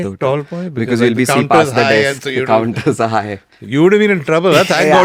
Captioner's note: laughs